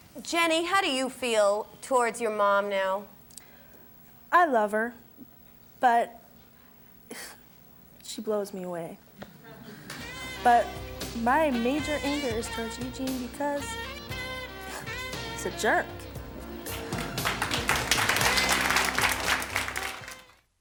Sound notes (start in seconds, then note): 14.7 scoffs; 16.6 audience applause